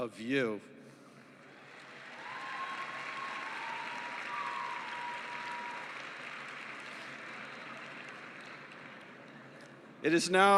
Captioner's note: cheering and applause